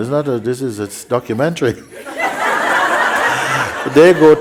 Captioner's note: laughter